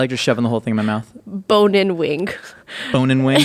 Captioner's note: laughing